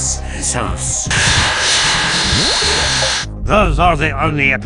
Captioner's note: UberDuck glitches intensify